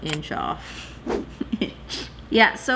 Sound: laughs

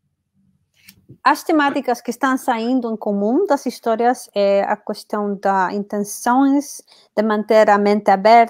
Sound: speaks portuguese

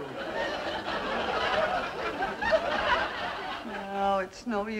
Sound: audience laughing

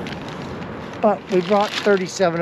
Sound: plastic crackling

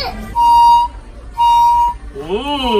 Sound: blows whistle

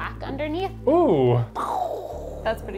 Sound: mimics explosion

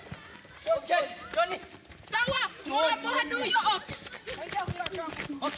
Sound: yelling in foreign language

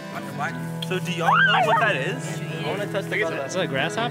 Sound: screaming

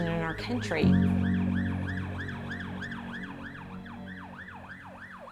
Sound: sirens wailing

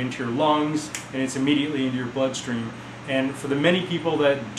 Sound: snaps fingers

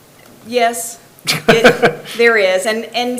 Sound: person laughs

